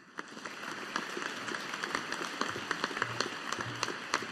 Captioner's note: audience applauding